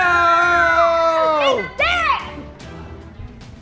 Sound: shouting

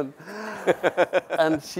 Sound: laughs

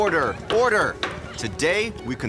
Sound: gavel banging

